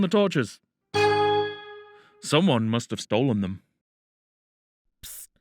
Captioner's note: ding